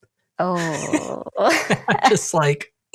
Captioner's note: both laugh